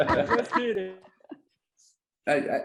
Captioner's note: all laughs